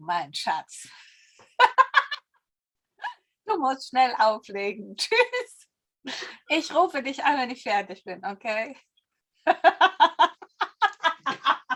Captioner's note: laughter